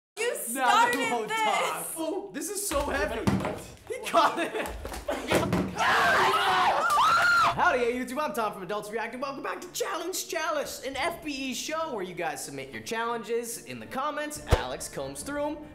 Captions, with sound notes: - You started this! - This is so heavy! (bottle whumping) (laughing) He caught it. (all screaming) - (shrieking loudly) - Hi there, YouTube, I'm Tom from Adults React and welcome back to Challenge Chalice, an FBE show where you guys submit your challenges in the comments, Alex combs through 'em,